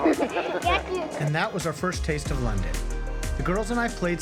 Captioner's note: laughing